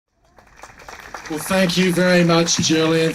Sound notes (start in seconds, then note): 0.2 clapping